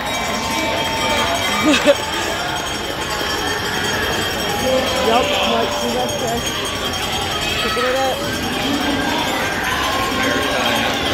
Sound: crowd cheering

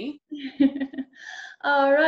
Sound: laughing

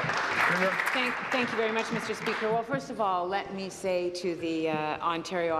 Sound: applause

